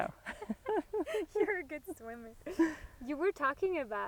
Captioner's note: laughs